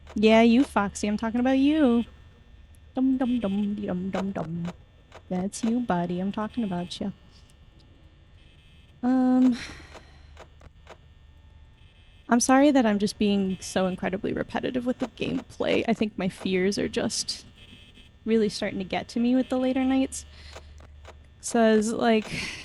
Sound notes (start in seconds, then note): 2.0 mimicking singing; 9.5 sigh